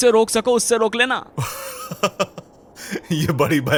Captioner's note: nervous laughter